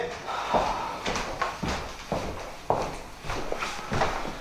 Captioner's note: Manny sighing